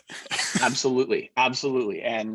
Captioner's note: chuckling